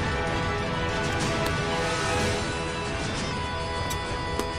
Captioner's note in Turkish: Takırtı Sesleri